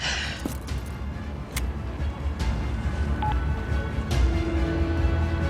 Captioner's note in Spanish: Sonido al marcar